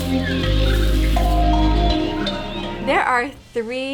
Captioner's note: slow relaxing music; animals calling